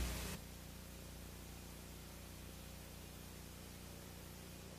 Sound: VHS static on television

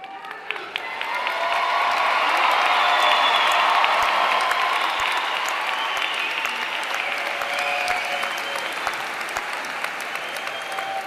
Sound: applause

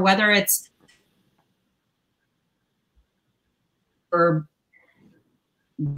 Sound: audio gets distorted

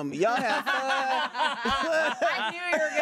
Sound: everyone laughs

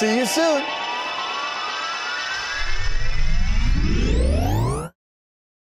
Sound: whirring sound

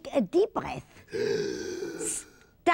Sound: breathes in

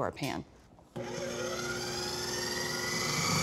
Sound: whirring

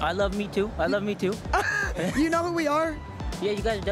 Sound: laughs

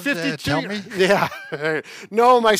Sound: chuckles

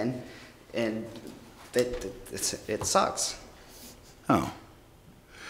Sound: stammers

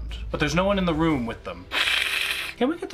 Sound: hisses

